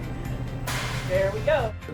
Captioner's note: explosion